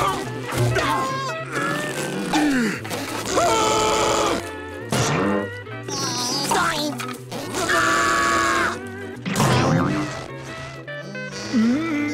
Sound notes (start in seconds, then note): 0.0 grunting; 3.2 screaming; 5.4 grunting; 7.4 screaming